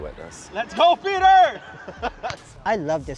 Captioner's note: laughs